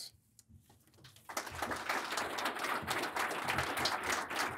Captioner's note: audience applauding